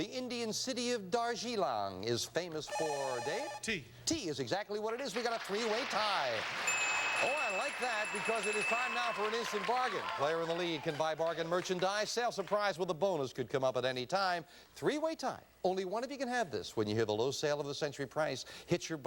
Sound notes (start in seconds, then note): 2.7 buzzer; 6.6 bell